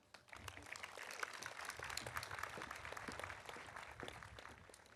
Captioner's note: audience applauding